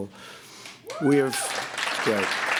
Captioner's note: applause